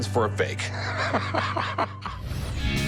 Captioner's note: laughing